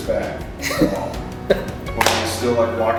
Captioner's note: laughter